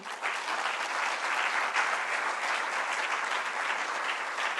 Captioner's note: applause